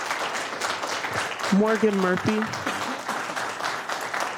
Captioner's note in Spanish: Aplausos